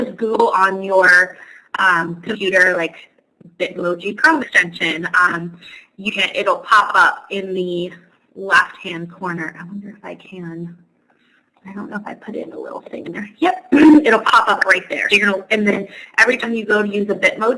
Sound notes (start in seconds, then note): 9.4 talking to herself